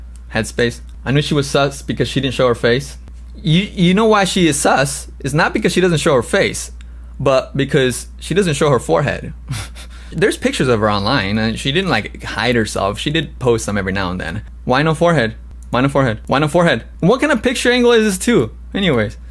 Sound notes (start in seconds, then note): 9.4 laughs